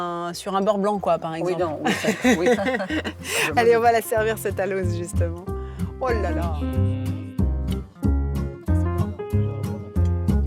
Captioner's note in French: rires